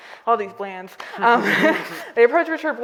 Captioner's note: all laughing